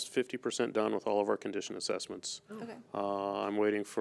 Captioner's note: overlapping chattering